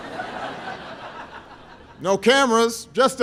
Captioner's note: laughter